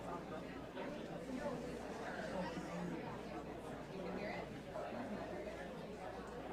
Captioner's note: audience members chattering indistinctly